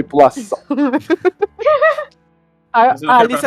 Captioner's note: laughter